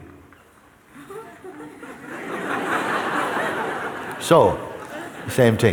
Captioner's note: laughter